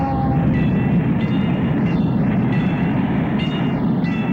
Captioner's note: bell dinging